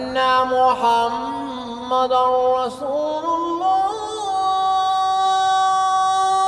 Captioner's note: chanting in other language